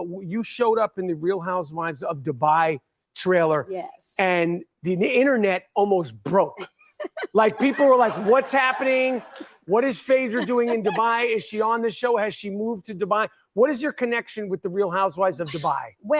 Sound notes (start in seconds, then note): 7.0 Phaedra laughs; 7.0 crowd chattering